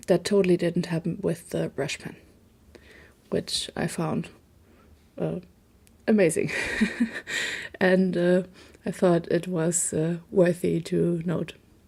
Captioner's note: laugh